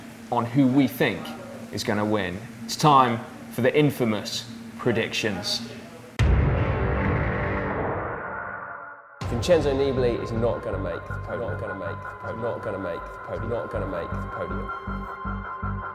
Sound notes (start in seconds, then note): 6.3 dramatic music; 12.0 echoing